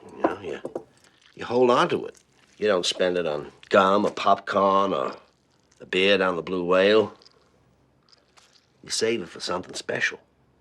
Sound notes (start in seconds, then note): none